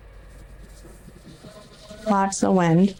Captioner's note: wind noise